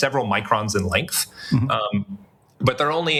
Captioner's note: laugh